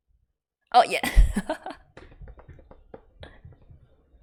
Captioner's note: laughs